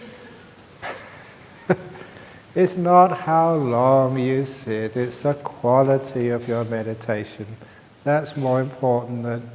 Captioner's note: laughs